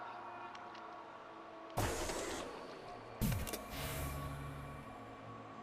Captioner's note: mechanical malfunctioning